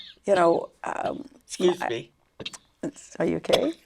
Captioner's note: coughs